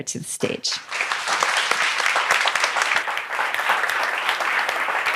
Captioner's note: applause